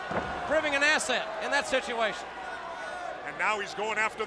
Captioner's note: blows thudding